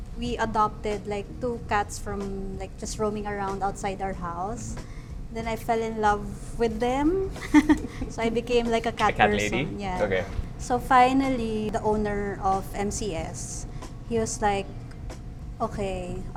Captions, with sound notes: we adopted, like, two cats from, like, just roaming around outside our house. Then, I fell in love with them. (laughs) So I became like a cat person. - A cat lady. Okay. - Yeah. So finally, the owner of MCS, he was like, "Okay.